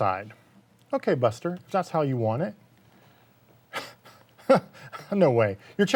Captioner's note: laughing